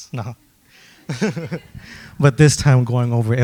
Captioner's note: laughs